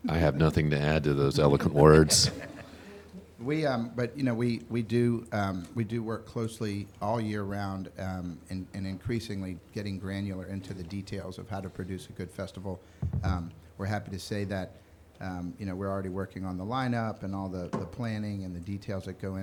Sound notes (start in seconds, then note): 1.5 members laughing